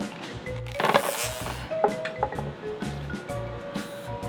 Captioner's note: buzzing